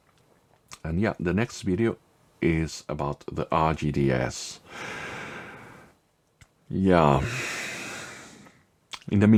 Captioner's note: sigh